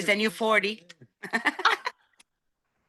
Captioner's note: laughing